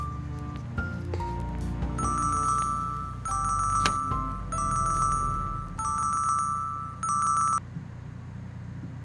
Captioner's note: phone ringing